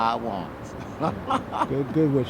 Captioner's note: he laughs heartily